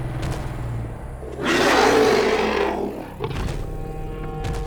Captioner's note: roars